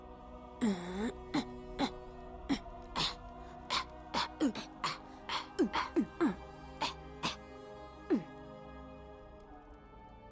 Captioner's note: beatboxing